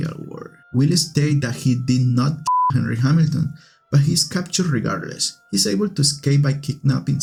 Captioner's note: beep